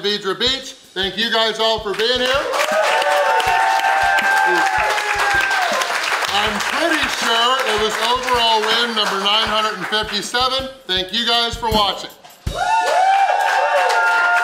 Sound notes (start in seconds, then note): 1.9 cheering & Clapping